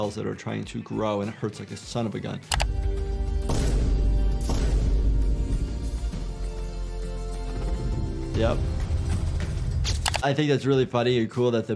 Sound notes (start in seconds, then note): 2.7 dramatic music; 3.6 metal thudding